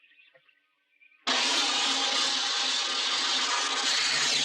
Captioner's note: flame hissing